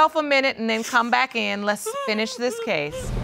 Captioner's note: sobbing